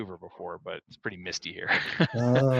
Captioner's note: laughing